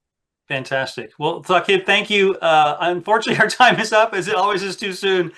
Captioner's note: laughs